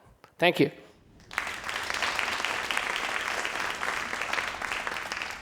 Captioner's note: crowd applauding